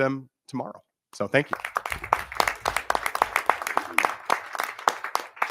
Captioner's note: audience clapping